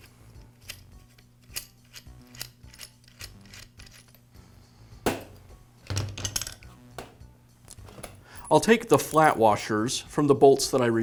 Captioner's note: tools clunking